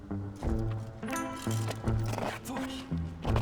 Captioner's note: chain derailing